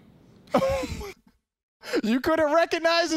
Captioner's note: laughing